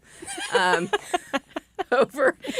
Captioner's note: laughter